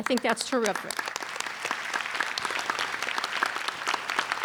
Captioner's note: applauding